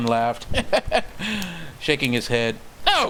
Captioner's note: clown laugh once again